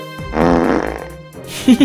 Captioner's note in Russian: звук пердежа; Соник ржёт